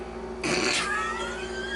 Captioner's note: laughing